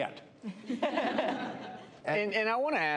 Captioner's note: laughter